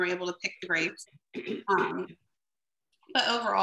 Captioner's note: clears throat